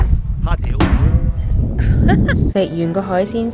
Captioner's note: laughs